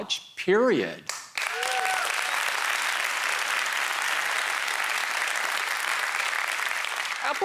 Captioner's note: applause